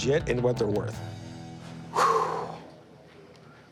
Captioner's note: exhales